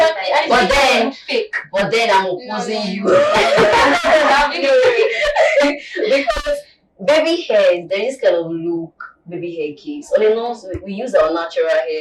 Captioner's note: laughter